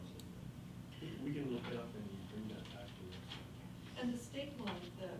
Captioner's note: faintly speaking